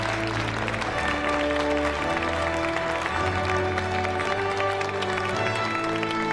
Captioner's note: audience applauding